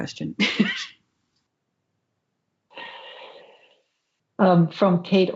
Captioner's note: laughs